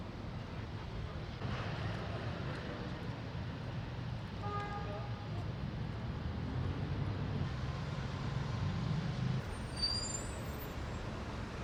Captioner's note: street sounds